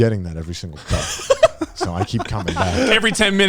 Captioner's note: laughs